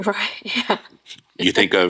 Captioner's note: laughing